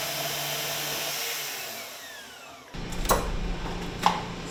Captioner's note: tool whirring